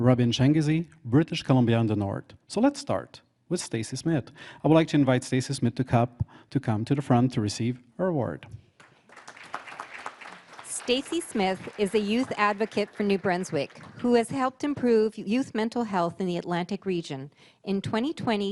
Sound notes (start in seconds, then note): 10.6 applause; 12.8 voice-over